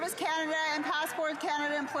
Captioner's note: applause